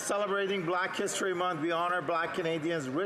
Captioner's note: some Applause